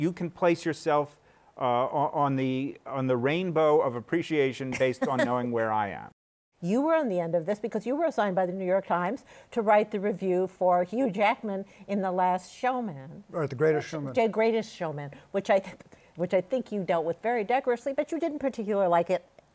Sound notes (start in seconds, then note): 15.5 laughs